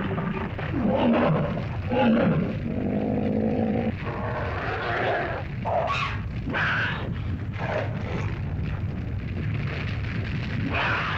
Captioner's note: earth rumbles; dinosaurs growl; fire crackles